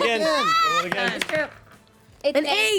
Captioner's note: rolls dice